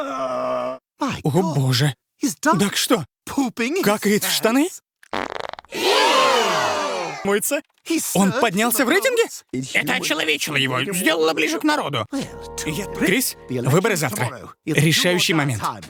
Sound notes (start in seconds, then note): 5.1 fartsts